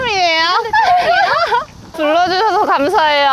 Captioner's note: laughter